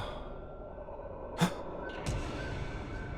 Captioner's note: gasp